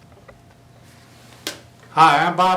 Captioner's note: slapping skull